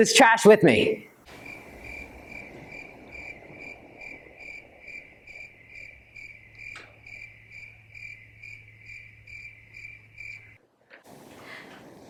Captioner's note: cricket Noises